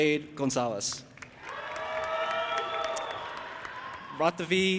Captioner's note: audience applauding and cheering